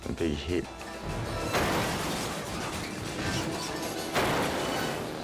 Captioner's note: motorcycles crash